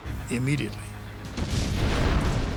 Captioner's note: explosion